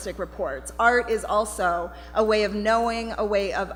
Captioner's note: none